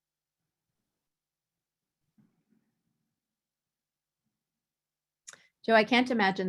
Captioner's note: no audible dialogue